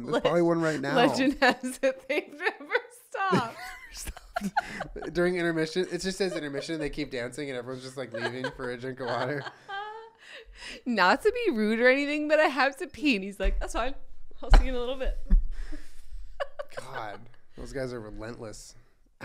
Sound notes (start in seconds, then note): 3.2 laughter; 9.4 more laughs